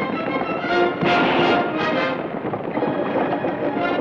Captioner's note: gun fires